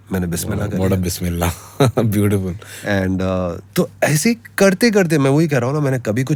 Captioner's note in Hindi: गला साफ़ करने की आवाज़